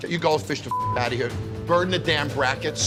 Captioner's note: beep